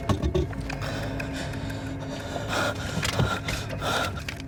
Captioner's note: breathing heavily; suspenseful music